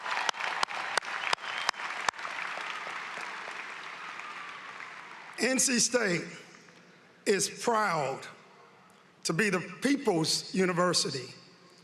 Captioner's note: cheering and applause